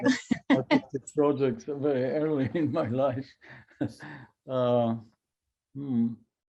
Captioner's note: chuckles